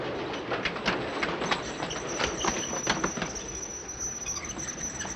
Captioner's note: brakes Screeching